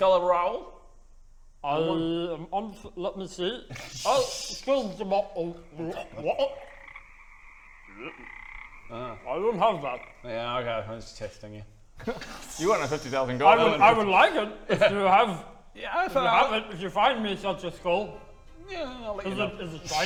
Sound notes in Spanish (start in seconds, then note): 4.5 Croak; 4.5 ribbit